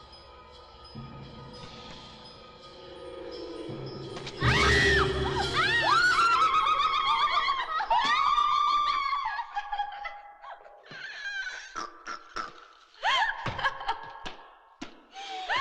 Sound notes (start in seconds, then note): 4.4 Julie screaming; 6.6 Sisters howling; 13.0 girls laughing